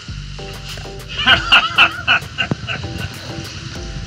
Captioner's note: laughs